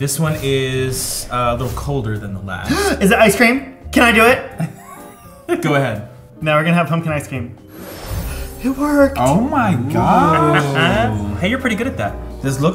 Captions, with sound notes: This one is a little colder than the last. - (gasps) Is it ice cream? Can I do it? - Go ahead. - Now we're gonna have pumpkin ice cream. - It worked! - Oh, my gosh. - Hey you're pretty good at that.